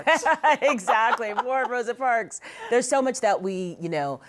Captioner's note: laughs